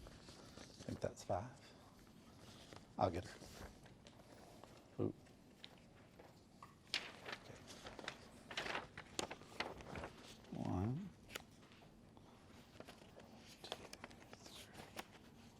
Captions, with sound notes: Think that's five. (softly talking off mic) I'll get her. One... Two, three.